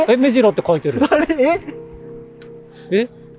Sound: laughs

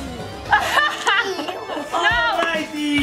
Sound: eerie music; laughing

